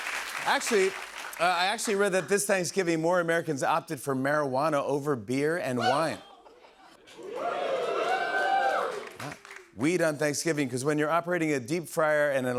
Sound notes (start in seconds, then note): 0.0 applause; 7.2 audience cheers